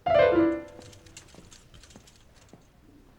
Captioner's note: piano stops abruptly; squeaky wheels